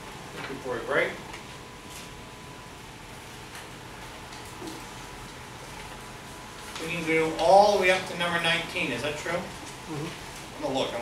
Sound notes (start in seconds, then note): 1.0 speaks softly